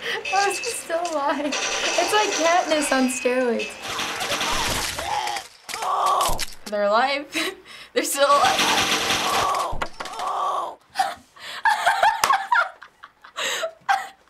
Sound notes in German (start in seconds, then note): 3.7 Pfeile fliegen; 8.5 Pfeile fliegen; 9.2 Motorist schreit vor Schmerz; 11.6 Lacht hysterisch